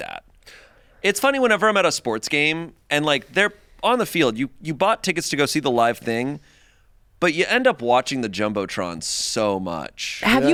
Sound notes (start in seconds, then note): none